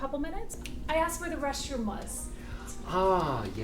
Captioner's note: snaps fingers